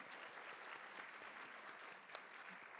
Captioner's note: applause